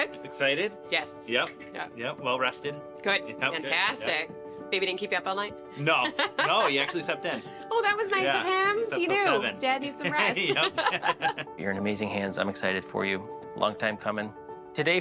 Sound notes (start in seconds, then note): 10.0 laughs